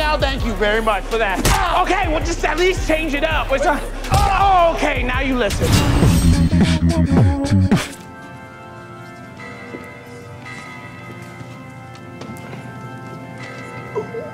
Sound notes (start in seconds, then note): 1.4 man yelling; 5.6 air whooshing; 8.0 organ music playing